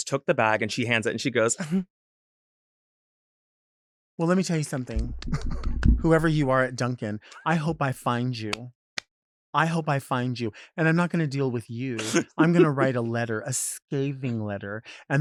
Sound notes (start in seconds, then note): 1.6 giggles sarcastically